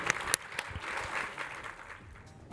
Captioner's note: audience applauds